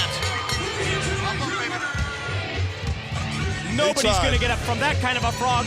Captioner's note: bell ringing